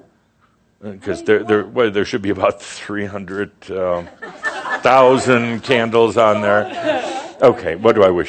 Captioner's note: more chuckles